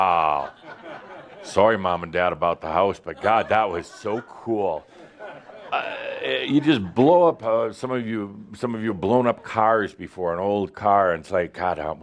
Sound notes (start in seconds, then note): 0.8 some chuckles